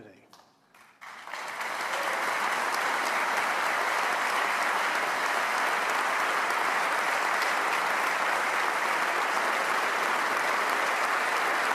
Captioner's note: applause